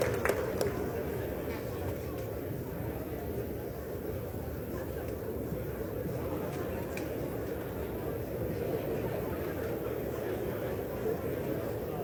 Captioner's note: applause